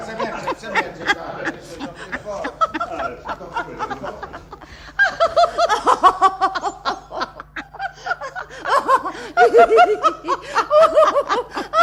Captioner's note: the women laugh heartily